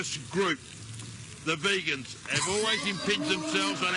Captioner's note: hosts laughing